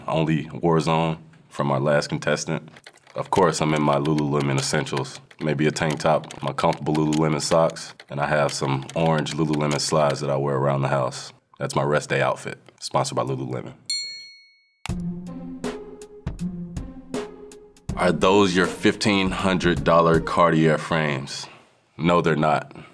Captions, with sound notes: only Warzone, from our last contestant. Of course, I'm in my Lululemon essentials, maybe a tank top. My comfortable Lululemon socks and I have some orange Lululemon slides that I wear around the house. That's my rest day outfit. Sponsored by Lululemon. [bell rings] [bright music] "Are those your $1,500 Cartier frames?" No, they're not.